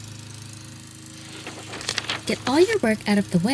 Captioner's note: paper rustling